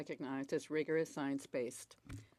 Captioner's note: speaking French